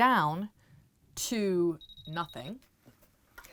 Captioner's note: machine beeps